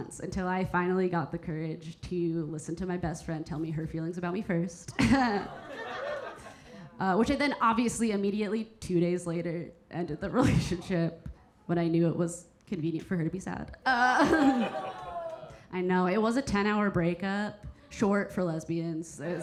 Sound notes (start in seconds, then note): 5.0 Keira chuckling; 5.2 audience laughing; 13.8 Keira exclaiming; 14.2 audience members exclaiming; 19.1 audience laughing